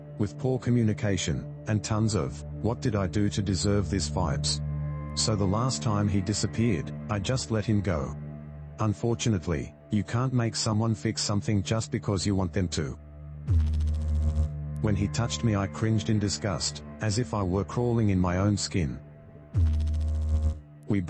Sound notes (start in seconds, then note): 13.4 electrical noise; 19.5 electrical noise